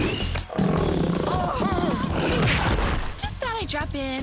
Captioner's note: roaring